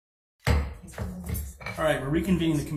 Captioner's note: gavel thudding